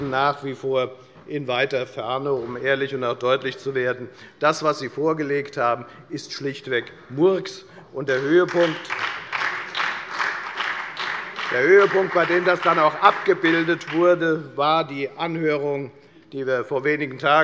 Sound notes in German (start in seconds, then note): 8.0 Beifall bei der FDP und bei Abgeordneten der SPD